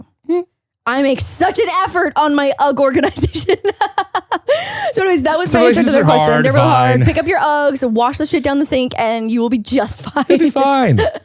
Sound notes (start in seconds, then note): 3.3 laughs; 10.0 laughs